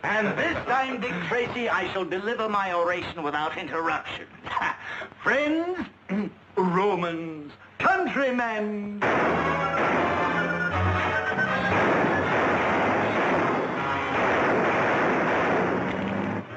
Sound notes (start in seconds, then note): 9.8 guns firing